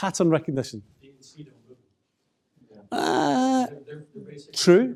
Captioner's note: audience response